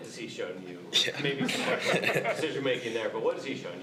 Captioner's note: all laugh